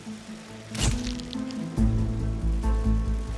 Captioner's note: camera flash pops